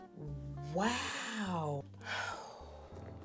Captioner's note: sighs